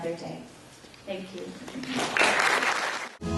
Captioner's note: applause